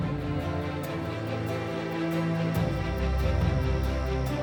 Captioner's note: excited music; crickets chirping